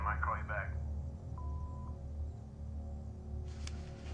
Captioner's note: tone beeps; soft suspenseful music